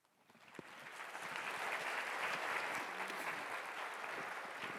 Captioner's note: audience applauding